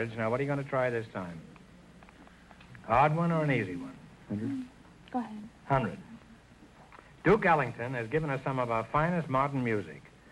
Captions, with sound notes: Now what are you gonna try this time? Hard one or an easy one? - (whispering) 100? - Go ahead. - 100 - Duke Ellington has given us some of our finest modern music.